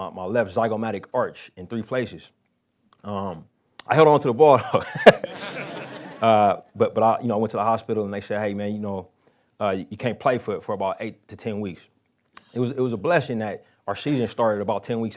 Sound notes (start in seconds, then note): 4.8 laughing